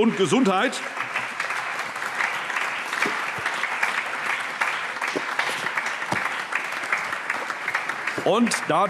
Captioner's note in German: Allgemeiner Beifall